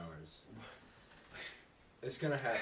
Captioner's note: aghast noises